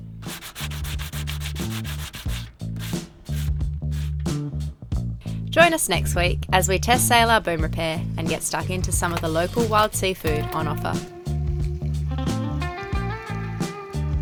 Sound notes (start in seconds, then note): 0.2 paper sanding; 2.3 smooth jazz music